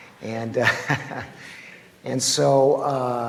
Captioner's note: laughs